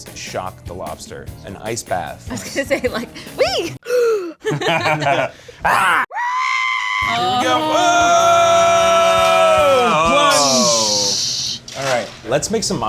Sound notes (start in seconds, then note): 3.8 gasps; 5.6 roars; 5.7 screaming; 7.5 yelling